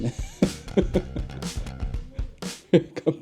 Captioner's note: nervous laugh